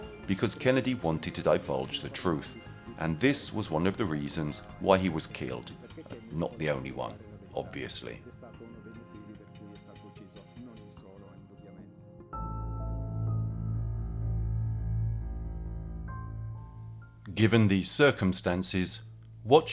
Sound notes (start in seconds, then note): 9.1 dramatic music continues; 9.1 speaking in foreign language; 12.6 gentle music